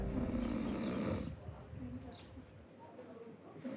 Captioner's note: snoring